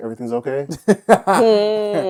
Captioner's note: laughter